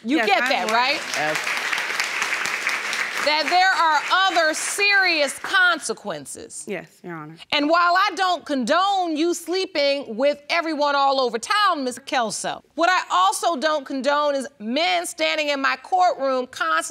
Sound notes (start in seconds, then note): 0.1 audience applauding